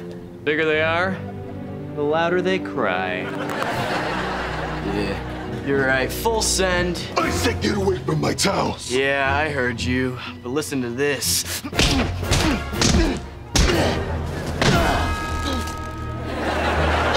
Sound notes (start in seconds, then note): 2.9 cracks knuckles; 11.4 grunting